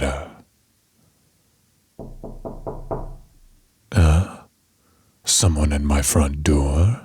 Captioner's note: knock